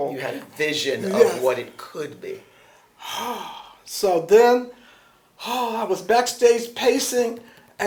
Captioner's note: exhales sharply